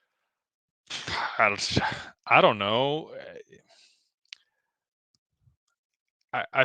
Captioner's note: sighs